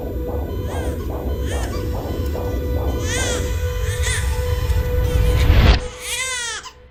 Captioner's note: baby crying